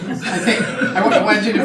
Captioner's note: audience laughing